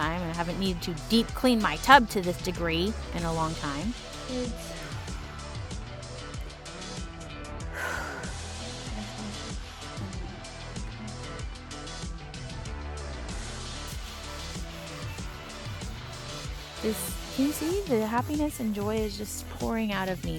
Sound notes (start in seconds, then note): 5.0 sigh